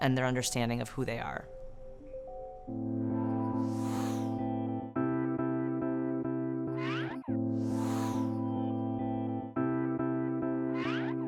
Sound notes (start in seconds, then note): 1.4 bright music; 1.8 air whooshing